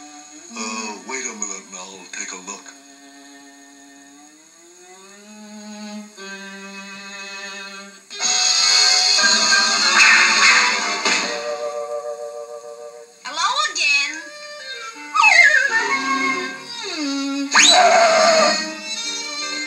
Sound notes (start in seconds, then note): 9.9 swish Swish; 17.4 Screech